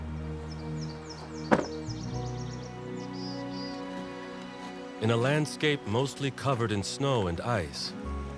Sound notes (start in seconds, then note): 1.4 trunk closes